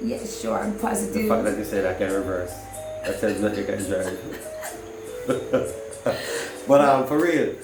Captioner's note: soft chuckle